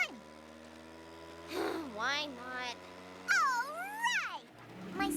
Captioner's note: sighs